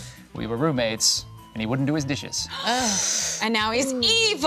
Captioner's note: others gasping